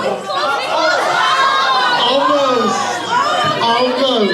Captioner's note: audience shouting